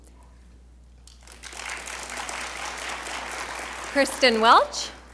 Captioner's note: audience applauding